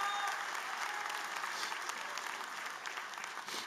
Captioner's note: applause